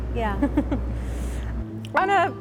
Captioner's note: lady giggles